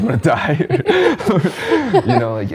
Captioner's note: laughs